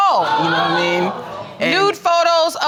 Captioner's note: audience exclaiming